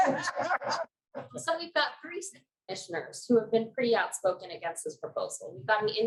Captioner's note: lauging